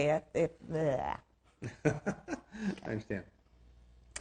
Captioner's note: laughing